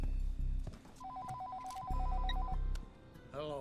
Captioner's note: phone ringing